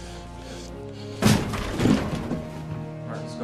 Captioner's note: door slams open